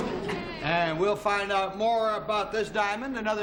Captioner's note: audience oohing